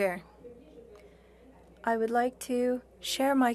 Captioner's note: speaking French